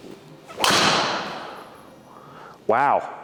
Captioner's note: golf club hits ball